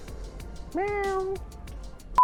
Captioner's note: horrible meowing noises